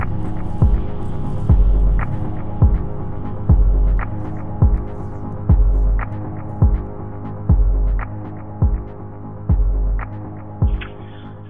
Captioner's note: soundbite of archived recording